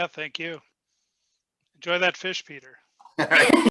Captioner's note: laughing